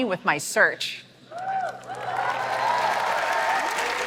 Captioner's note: applause